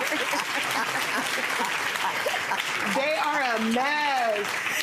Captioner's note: audience laughing